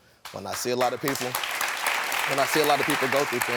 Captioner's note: audience clapping